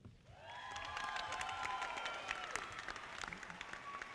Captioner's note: audience applauding